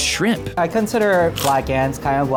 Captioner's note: food crunching